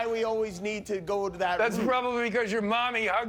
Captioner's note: laughter